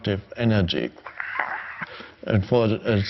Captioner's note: imitates outburst